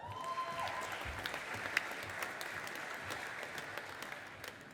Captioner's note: audience applauding